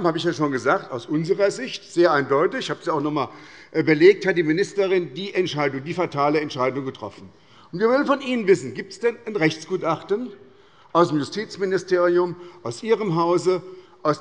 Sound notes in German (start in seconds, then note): none